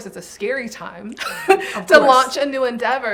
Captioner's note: giggling